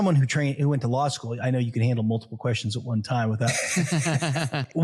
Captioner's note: laugh